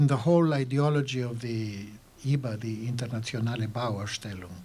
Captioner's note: german